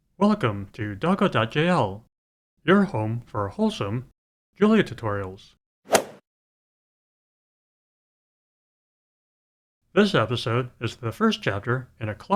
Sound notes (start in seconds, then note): 5.9 swoosh